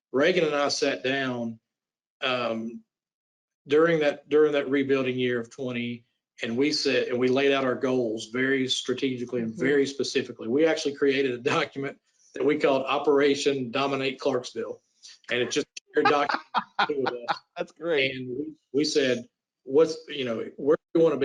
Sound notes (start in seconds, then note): 15.2 group chattering; 15.9 laughs